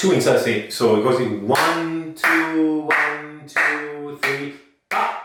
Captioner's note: claps